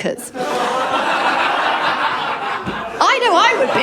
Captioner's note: laughter